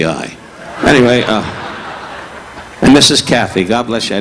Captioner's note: audience laughing